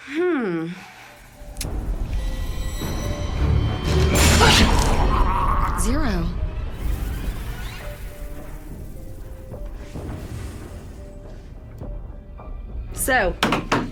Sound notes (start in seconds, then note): 4.2 gurgling